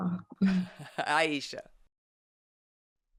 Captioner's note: chuckles